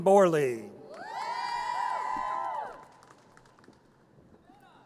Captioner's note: audience cheers